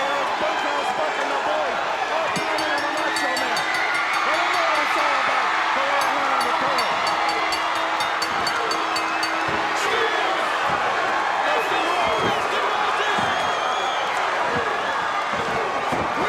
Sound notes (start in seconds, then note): 3.3 bell ringing; 4.9 audience cheering; 13.0 audience cheers drowns out commentators